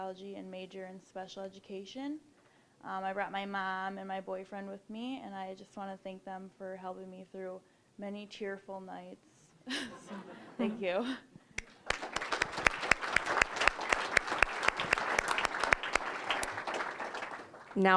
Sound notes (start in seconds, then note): 9.7 audience laughing; 11.6 applause